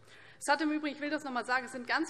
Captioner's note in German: none